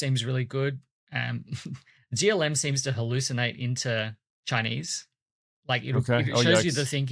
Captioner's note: chuckles